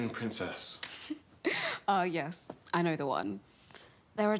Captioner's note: laughs